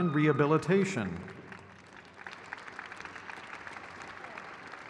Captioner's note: crowd cheers